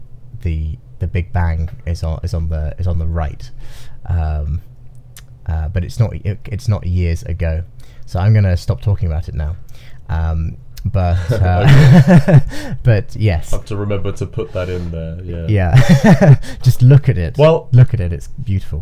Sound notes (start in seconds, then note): 11.1 both laughing